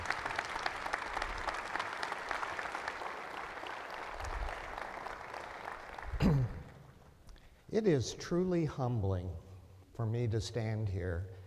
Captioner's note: applause